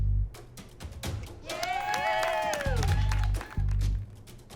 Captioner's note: tense music; applause